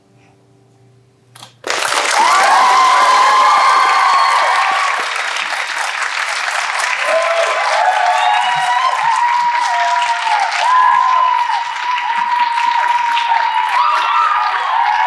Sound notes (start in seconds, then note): 1.6 applause